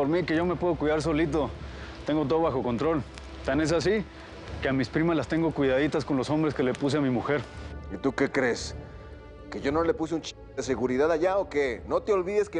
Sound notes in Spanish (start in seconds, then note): none